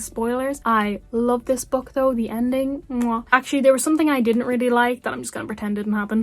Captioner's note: kiss